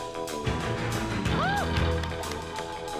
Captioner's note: mom cheers, applauds